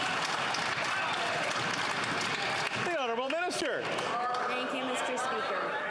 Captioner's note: applause